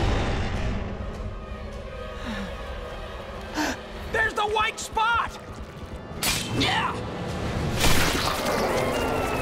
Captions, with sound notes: [gasping] There's the white spot! Hi-yah!